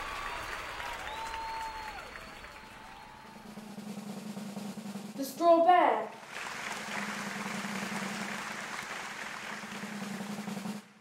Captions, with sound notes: The Straw Bear. [clapping]